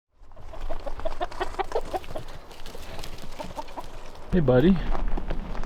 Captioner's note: chickens clucking